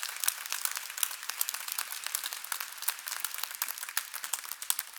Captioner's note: applause